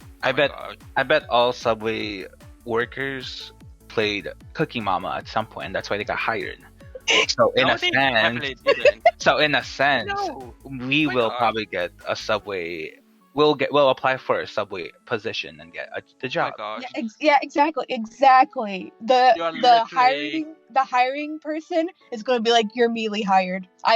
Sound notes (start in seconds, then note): 6.9 laughing yet again